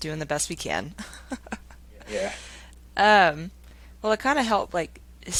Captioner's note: laughing